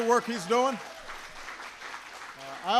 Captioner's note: applause